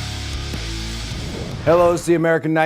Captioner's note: logo whooshing